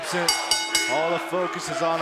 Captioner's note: bell ringing